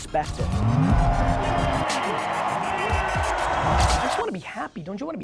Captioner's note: plane whirring